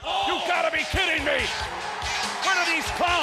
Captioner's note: crowd clamoring; lively music